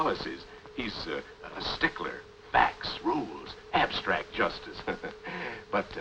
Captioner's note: chuckles